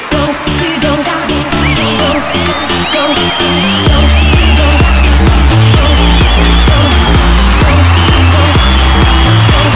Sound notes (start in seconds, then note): 3.0 All cheering, whistling